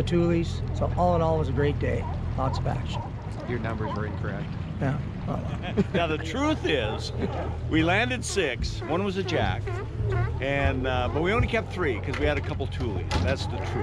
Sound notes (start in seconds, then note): 5.4 chuckling